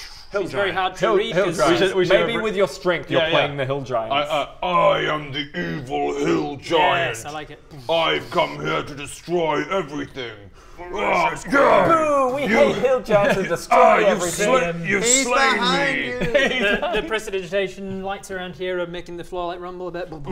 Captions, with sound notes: - She's very hard to read - Hill giant! - cos she's - Hill giant! maybe with your strength you're playing the hill giant? I am the evil hill giant! Yes, I like it! I've come here to destroy everything! *rwwrrgh gaah!* Boo! We hate hate hill giants that - destroy everything - All you've slain - He's behind you! - you've slain me! He'd behind! The prestidigitation lights around here are making the floor like rumble a bit